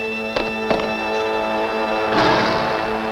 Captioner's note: swatting